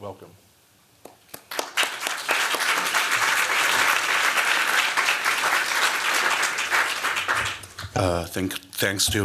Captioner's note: applause